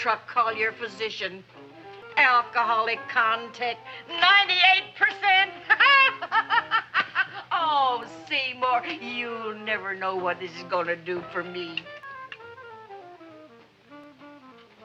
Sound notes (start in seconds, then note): 5.3 laughs; 12.1 upbeat music